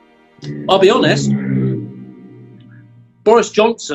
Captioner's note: motorbike roars outside